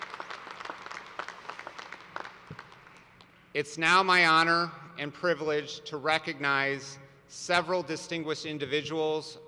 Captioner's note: applause